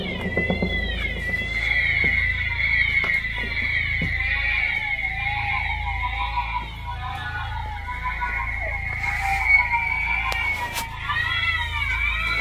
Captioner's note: crying and screaming sounds from the radio